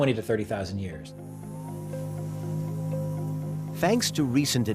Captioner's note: saw whirring